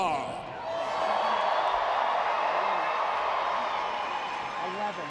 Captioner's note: audience cheering